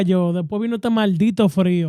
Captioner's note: speaking In Foreign Language